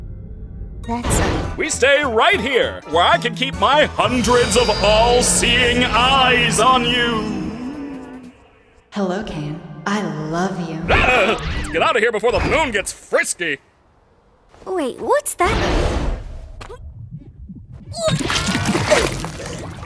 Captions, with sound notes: That's -- We stay right here, where I can keep my [Dramatic voice] hundreds of all-seeing eyes on you. [ Soft voice ] Hello, Caine. I love you. Eaugh! Let's get outta here before the Moon gets frisky. Wait, what's that -- Blegh!